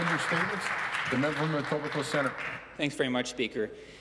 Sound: some Applause

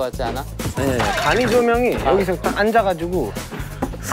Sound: arguing

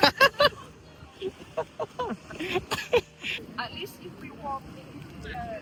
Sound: loud laughter

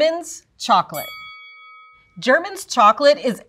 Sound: bell dings

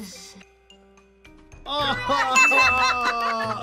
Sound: both laugh; laughs

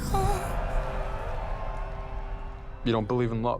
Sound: crowd cheering

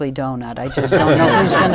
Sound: laughter

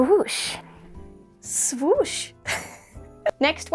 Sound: laugh

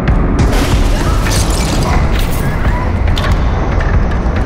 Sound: glass breaking

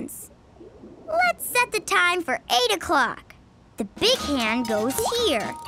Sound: none

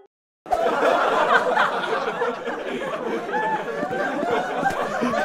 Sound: students laughing

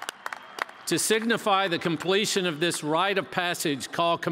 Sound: cheers

